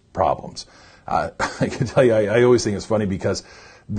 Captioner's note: laughs